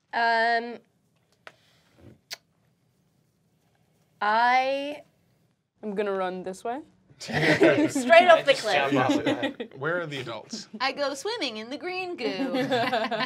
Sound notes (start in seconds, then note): 7.3 chuckling; 12.3 laughs